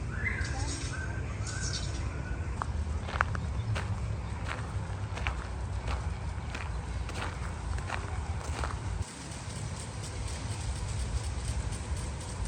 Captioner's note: birds chirping